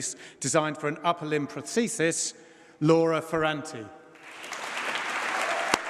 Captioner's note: applause